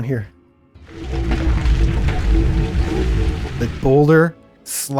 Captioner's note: boulder sliding on rocks sound